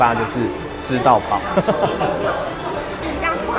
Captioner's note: hungry laughter